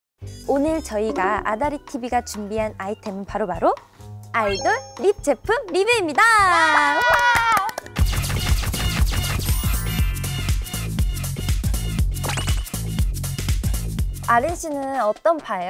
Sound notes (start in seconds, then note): 6.9 applause